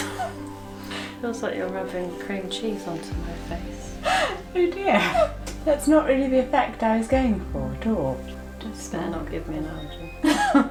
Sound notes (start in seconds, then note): 0.0 both laughing; 4.0 laughing